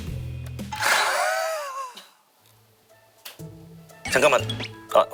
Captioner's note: snickers